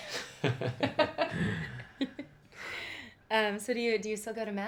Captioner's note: laughing